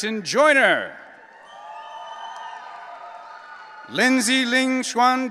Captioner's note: audience cheering